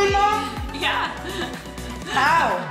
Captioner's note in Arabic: يضحك